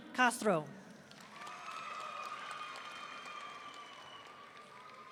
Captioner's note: audience cheering